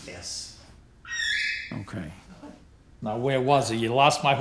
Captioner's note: bird calls